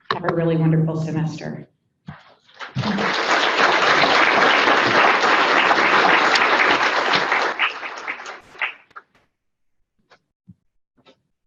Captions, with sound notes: Have a really wonderful semester! (audience applauds)